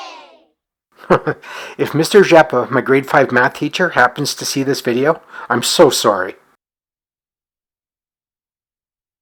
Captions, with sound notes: [chuckles] If Mr. Rzepa - my grade five math teacher - happens to see this video, I’m so sorry.